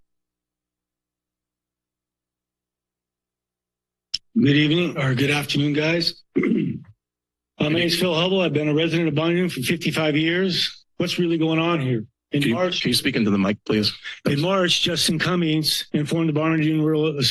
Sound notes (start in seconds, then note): 0.1 silence; 6.3 clears throat